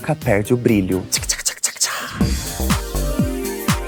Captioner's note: sparkle sounds; electronic music